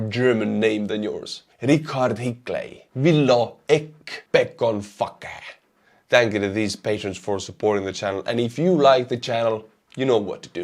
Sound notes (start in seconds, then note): 1.1 heavy Estonian accent; 4.4 heavy Estonian accent